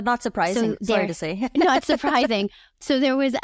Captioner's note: chuckles